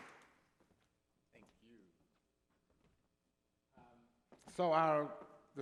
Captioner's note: applause